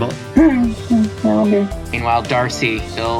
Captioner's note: slimeball-having noises